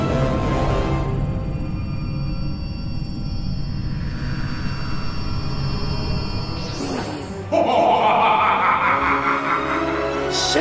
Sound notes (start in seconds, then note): 1.1 intense ringing; 7.4 evil laugh